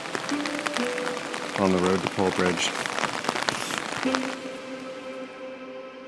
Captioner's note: rain